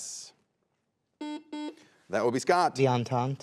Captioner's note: buzzer buzzes